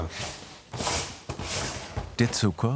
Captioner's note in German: Schleifende Geräusche